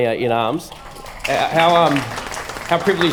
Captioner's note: applause